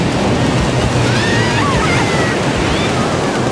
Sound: kids yelling

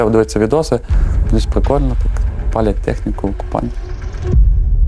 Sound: Russian

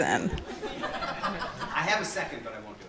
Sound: audience laughing

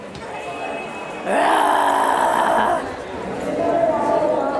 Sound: roars like a lion

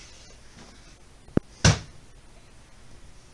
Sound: slam

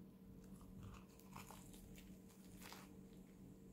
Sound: crunch

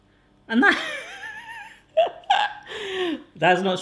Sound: laughs

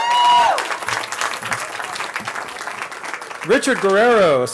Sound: cheering

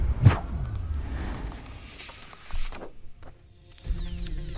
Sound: pencil scribbling

